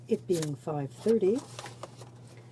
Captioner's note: speaking in french